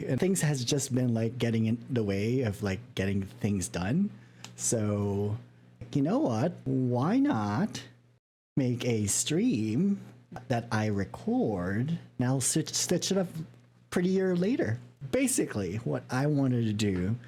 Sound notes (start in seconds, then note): none